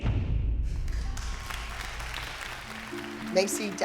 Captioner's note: applause